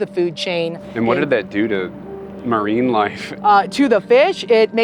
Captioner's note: pat